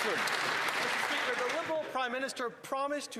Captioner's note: applause